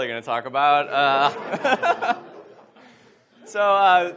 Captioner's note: laughs